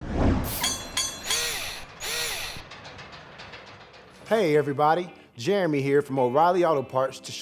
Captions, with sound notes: [Mechanical SFX] Hey everybody. Jeremy here from O'Reilly Auto Parts